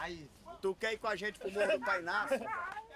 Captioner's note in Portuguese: risada